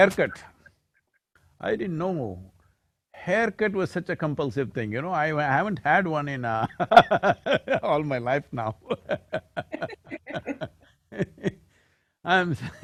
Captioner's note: laughter